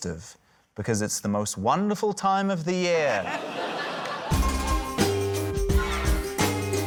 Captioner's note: laughter; quirky music